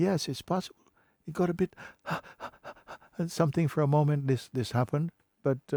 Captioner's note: agitated breaths